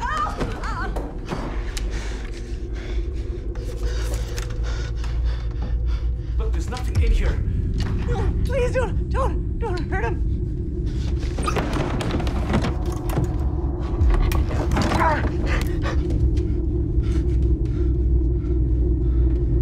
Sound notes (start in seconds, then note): 0.1 yelling; 1.1 heavy breathing